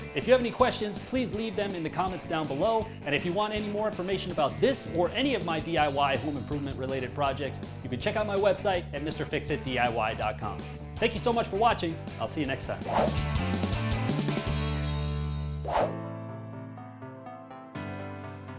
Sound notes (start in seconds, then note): 12.8 whooshing; 13.1 lively rock music; 15.8 pensive music